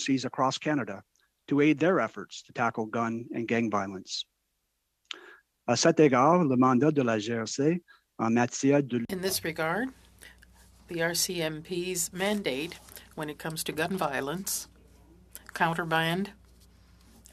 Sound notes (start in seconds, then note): 10.2 speaking French